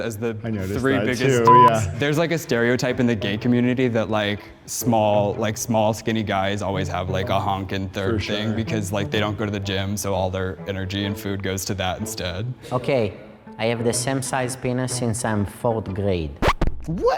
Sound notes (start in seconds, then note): 1.4 beep